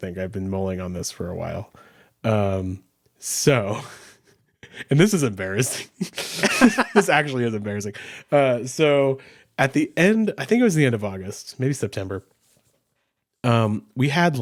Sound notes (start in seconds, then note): 3.7 chuckles; 5.7 chuckles; 5.8 laughs